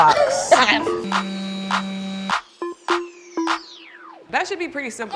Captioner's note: laughs; sander whirring